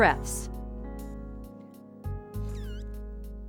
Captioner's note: blowing